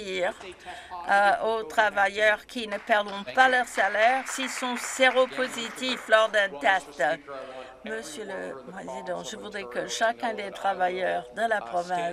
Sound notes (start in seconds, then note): 6.8 some Applause